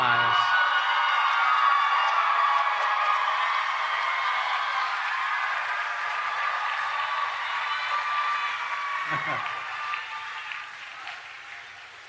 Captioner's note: cheering and Applause